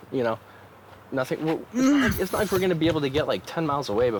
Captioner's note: Victor groans